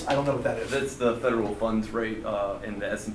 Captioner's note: voiceover